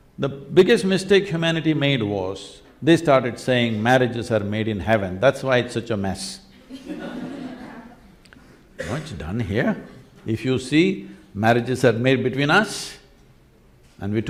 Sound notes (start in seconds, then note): 6.6 laughter